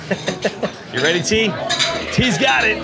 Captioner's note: person laughing